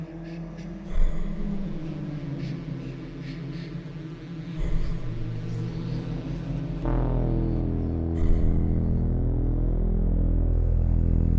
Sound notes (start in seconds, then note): 0.7 Wanderer breathing heavily